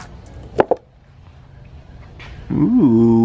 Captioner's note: knock